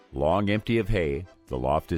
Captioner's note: voiceover